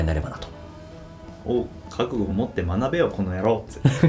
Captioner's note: laughs